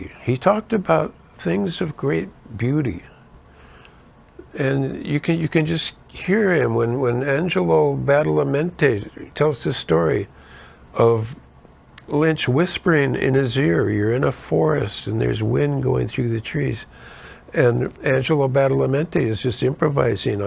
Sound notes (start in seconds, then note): none